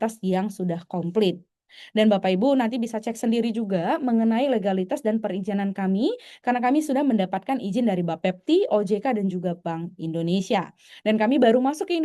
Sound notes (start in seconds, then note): none